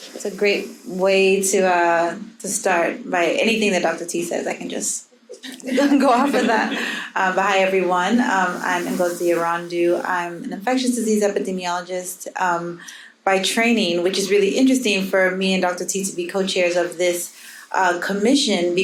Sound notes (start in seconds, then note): 5.4 audience laughing